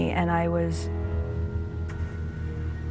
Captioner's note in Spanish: AUDIO EN INGLéS